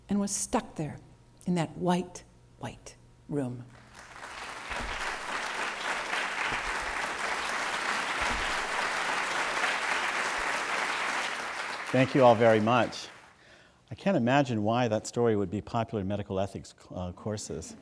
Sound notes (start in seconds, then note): 3.7 applause